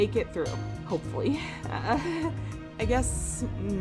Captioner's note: nervous laugh